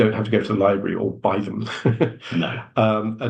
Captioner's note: chuckles